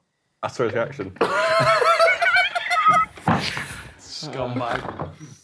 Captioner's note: group laughing